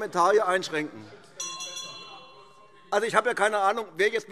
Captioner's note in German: Zurufe BÜNDNIS 90/DIE GRÜNEN, SPD, AfD und DIE LINKE - Unruhe - Glockenzeichen